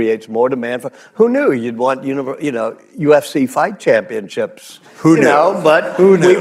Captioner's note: laughter